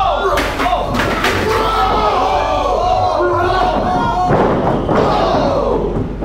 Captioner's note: shouting